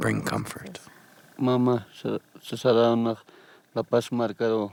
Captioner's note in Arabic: الصوت المنطوق باللغة الكيتشوا